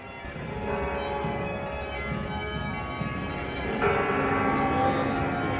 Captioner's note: bells